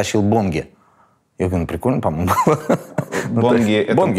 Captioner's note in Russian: смеётся